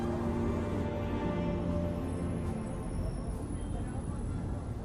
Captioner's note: city noise